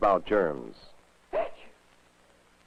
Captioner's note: sneezes